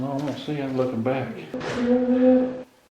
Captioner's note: moan